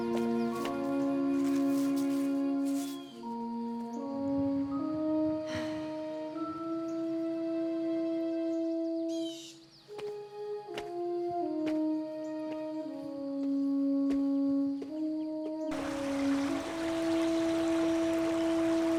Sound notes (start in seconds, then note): 0.3 gentle flute music continues; 5.5 Josey sighs; 15.7 water rippling